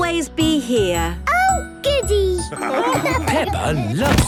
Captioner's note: laughing